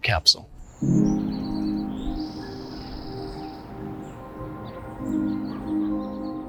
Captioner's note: birds chirping; gentle music